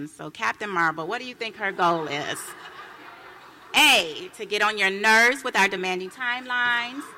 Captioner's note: laughter